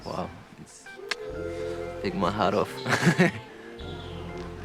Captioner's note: laughs